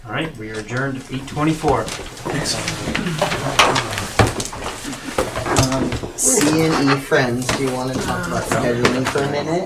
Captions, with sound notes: All right, we are adjourned at 8.24. Thanks. (board clattering) C and E friends, do you want to talk about scheduling for a minute?